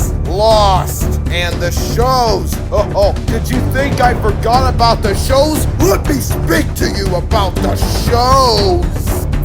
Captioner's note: Jabba laugh